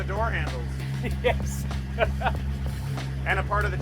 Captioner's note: laughs